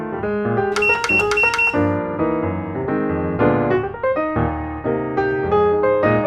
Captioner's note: click 4 times in a row